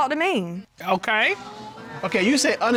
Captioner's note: audience exclaiming